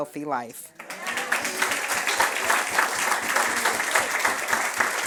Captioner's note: friends applauding